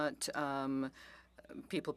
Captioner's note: speaking French